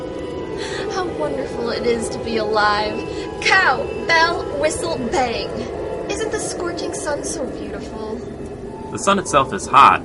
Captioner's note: laughs